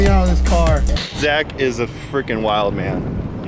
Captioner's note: static